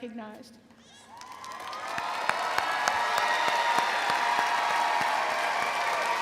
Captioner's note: audience applauding and cheering